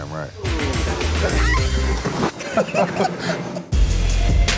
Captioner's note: both laugh